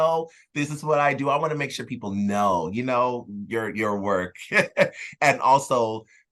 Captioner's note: laughs